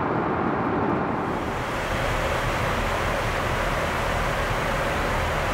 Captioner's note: plane engine roaring